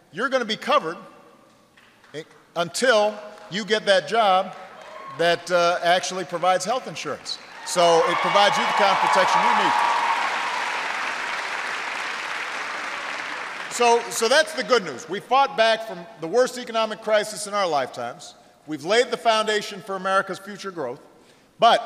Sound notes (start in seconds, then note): 13.6 applause